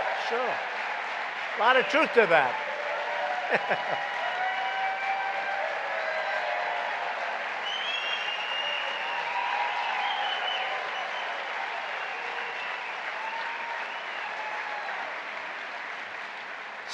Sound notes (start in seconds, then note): 0.0 applause; 3.5 laughs; 11.0 applause